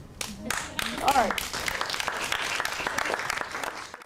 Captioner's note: clapping